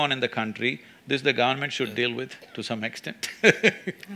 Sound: laughs

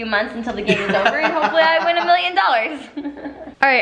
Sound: laughs; chuckles

